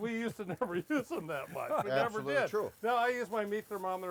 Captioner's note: laughs